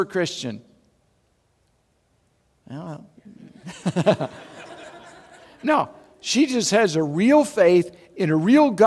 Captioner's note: audience laugh